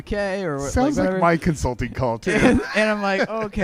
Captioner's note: laughs